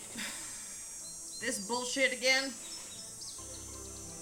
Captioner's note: scoffs